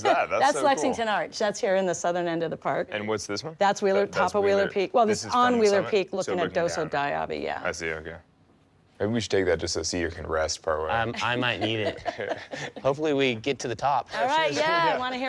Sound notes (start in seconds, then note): 11.1 laughing